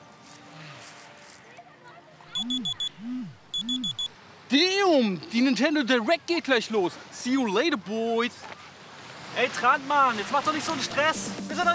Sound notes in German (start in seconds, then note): 2.3 Piepsen